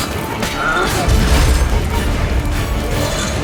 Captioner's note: Quen shield crackles